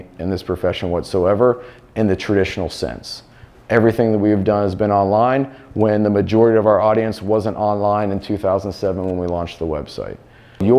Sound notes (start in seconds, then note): none